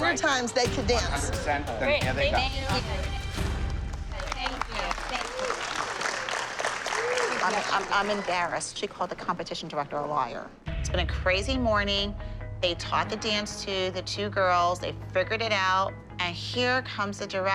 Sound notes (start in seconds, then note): 6.1 applause